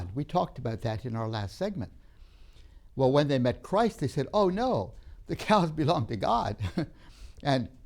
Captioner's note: laughs